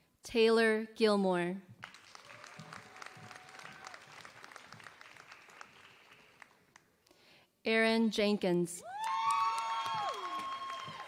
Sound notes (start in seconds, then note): 1.8 applause; 8.9 applause